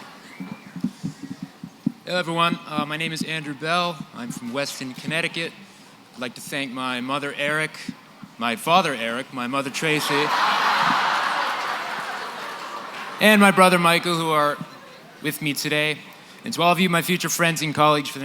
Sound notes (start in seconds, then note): 9.8 laughter